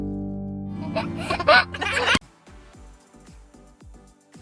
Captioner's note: laughter